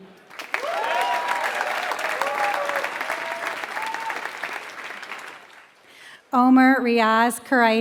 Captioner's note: applause